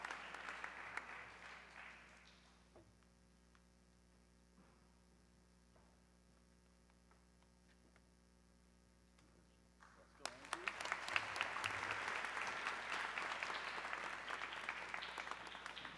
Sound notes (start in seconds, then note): 9.8 audience clapping